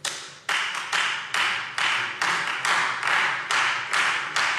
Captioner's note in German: Beifall Freie Demokraten